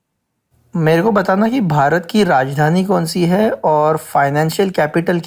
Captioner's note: speaker 5 speaking in Hindi